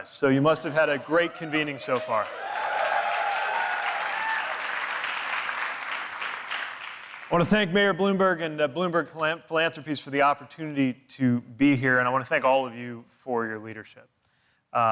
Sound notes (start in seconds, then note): 2.6 audience applauding and cheering